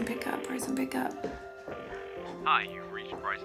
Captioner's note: phone ringing